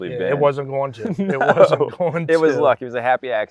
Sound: laughs

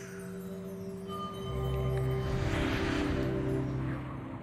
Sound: wind and music

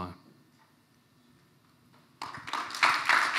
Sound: applause

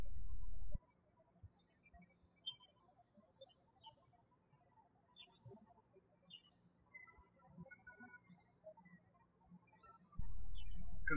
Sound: birds chirping

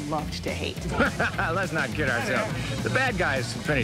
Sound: laughs

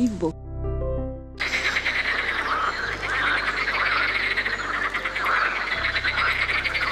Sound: noise of frogs

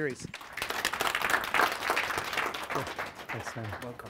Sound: applause

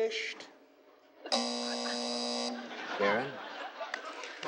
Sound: buzzing

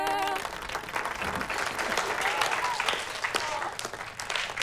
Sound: all applauding

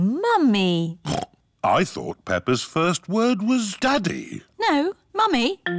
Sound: snorts

